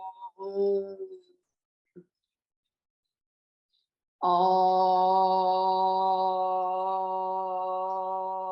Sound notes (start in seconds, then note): 4.2 chanting